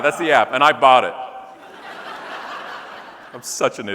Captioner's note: audience laughing